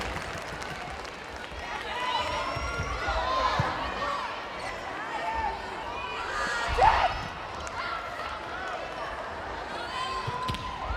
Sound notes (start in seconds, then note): 4.5 players yelling